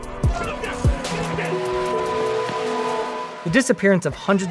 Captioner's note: person shouting